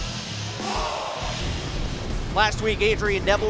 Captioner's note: crowd cheering